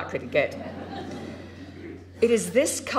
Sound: crowd laughing

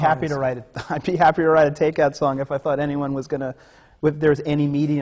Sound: laughs

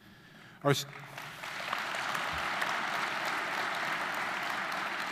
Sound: audience applauding

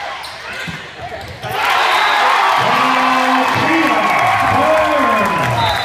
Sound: crowd cheering loudly

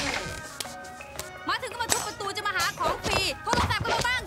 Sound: speaking foreign language

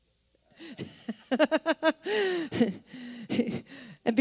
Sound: laughing

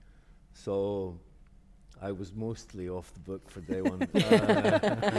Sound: laughter

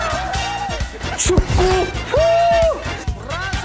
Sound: shouting

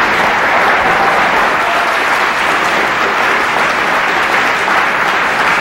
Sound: audience applause

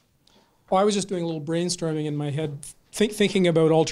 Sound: voiceover

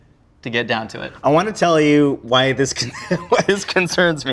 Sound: laughing

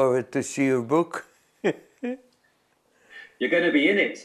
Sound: laughs

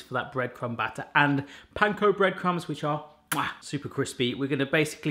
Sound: kisses

